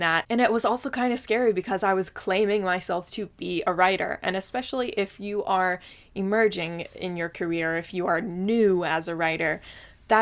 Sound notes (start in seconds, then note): none